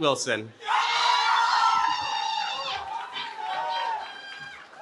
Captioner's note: cheering